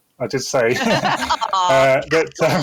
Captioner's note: chuckling